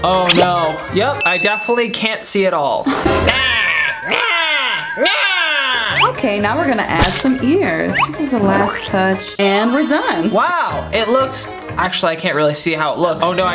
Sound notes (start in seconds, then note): 3.5 screams